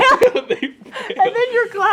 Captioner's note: laughs